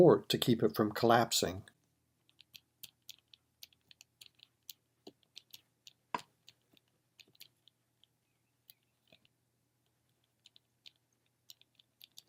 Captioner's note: typing